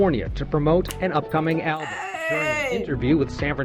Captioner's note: snaps